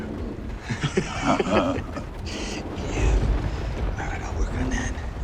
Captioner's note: laughter